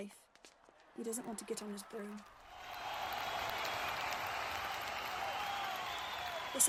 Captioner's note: crowd cheering